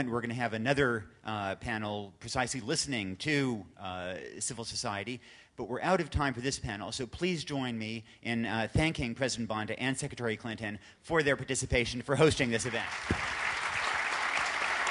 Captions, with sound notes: we're going to have another panel precisely listening to civil society. But we're out of time for this panel, so please join me in thanking President Banda and Secretary Clinton for their participation and for hosting this event. (Applause.)